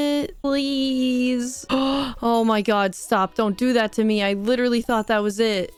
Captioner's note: gasp